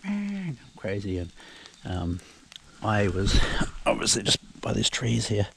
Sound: imitating sheep sounds

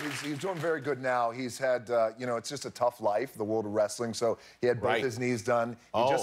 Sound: cheers and applause

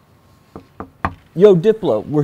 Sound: knocks on door

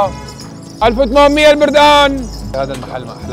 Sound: continues shouting

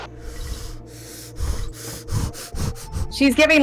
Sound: labored breathing

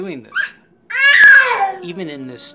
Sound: baby screaming

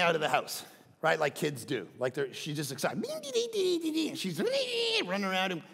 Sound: imitating child

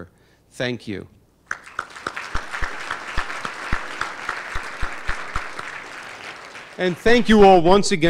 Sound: applause

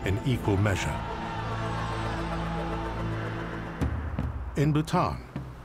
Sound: crowd chanting

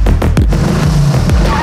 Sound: scooter engine rev

